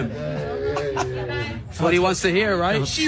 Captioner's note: laugh